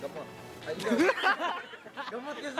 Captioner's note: laughter